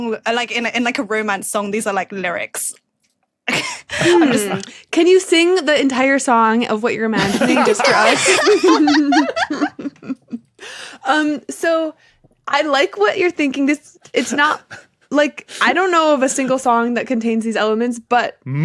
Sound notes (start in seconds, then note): 3.5 laughs; 7.1 group laughing